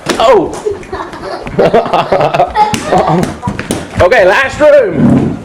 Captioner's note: both laughing